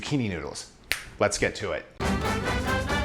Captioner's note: snapping; lively music